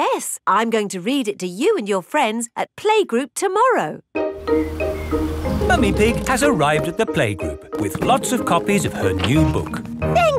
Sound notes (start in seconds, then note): none